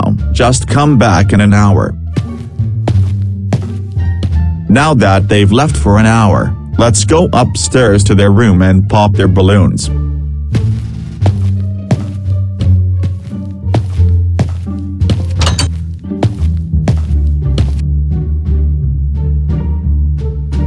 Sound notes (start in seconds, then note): 2.1 footsteps; 10.5 footsteps; 15.4 door opens; 15.9 footsteps